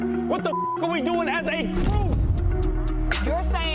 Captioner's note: beep